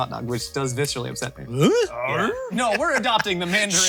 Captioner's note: both woofing